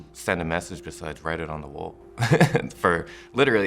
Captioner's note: laughs